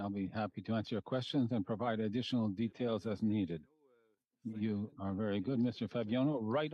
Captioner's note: speaking French